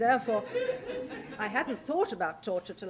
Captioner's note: laughter